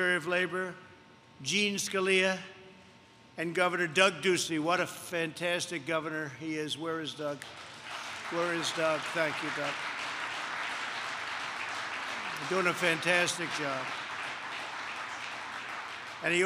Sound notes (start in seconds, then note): 7.4 applause; 12.1 applause